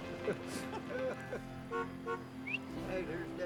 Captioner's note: car horn honks